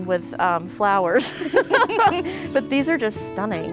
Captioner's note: laugh